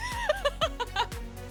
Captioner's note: laughing